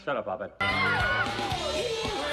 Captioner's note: cheering